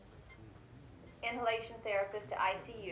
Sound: announcer On Speaker

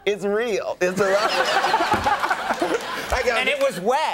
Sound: audience laughing

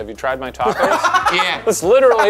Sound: Jarvis laughs

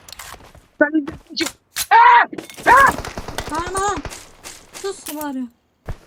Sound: shouting like crazy:D

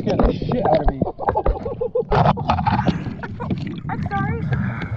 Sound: laughs

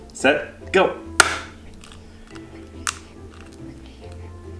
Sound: cracking

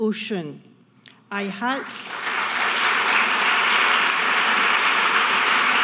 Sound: audience clapping

